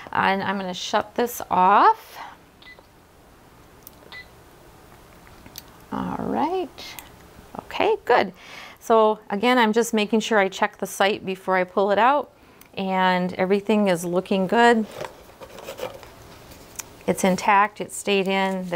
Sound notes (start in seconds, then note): 2.6 machine beeps